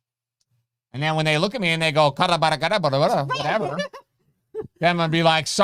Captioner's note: mimicking Spanish